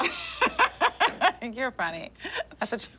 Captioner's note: laughs